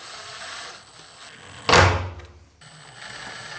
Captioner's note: drilling